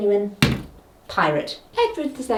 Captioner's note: pointer thuds